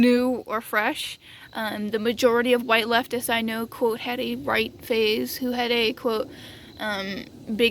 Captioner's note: airplane sounds